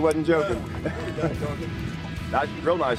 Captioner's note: laughing